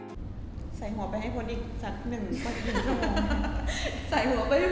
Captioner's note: laughs